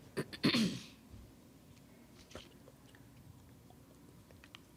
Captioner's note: Staley clearing throat